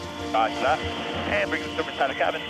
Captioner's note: person Over Radio; man Over Radio